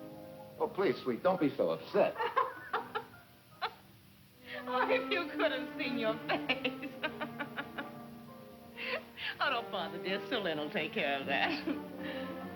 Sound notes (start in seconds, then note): 4.5 laughing